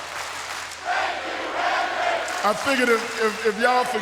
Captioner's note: claps